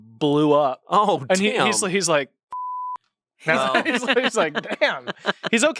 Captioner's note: everyone laughs